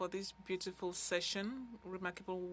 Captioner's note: speaking French